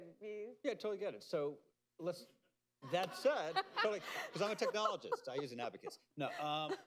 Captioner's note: laughter